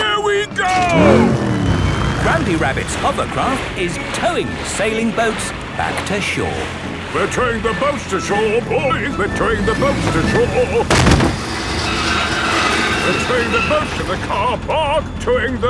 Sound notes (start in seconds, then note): 10.8 thud